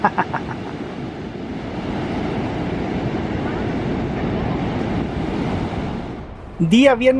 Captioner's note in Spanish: sonido del mar y la playa